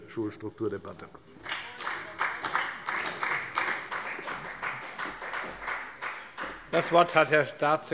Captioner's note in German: Beifall bei der FDP